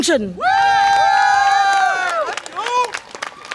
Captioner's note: audience applause and cheer